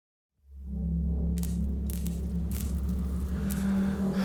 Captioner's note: low tones